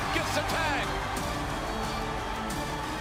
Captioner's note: crowd cheering